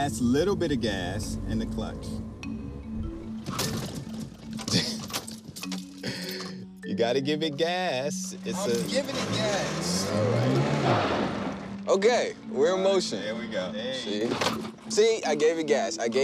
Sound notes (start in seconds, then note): 4.6 laughs; 8.6 engine revs